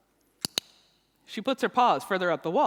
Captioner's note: clicks